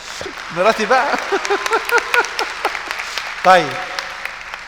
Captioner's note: laughs!